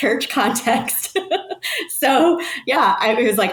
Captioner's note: person laughing